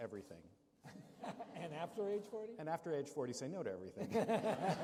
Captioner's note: laughter